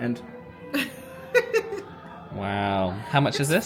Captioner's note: cast Member laughs